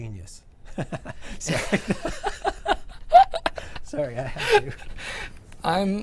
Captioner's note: laughter